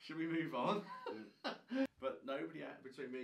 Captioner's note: laughing